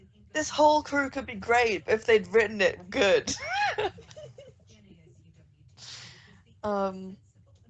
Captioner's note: laughs